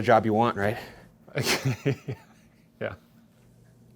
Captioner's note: chuckles